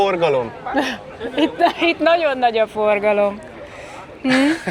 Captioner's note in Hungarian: nevetés